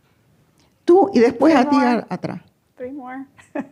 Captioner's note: speaking spanish